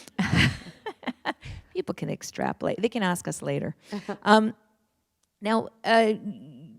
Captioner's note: chuckle